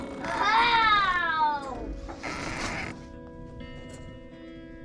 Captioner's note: roaring